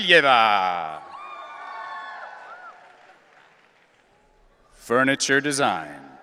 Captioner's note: audience cheering